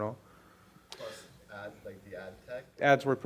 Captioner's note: voiceover